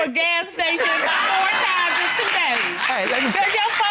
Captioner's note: audience applauding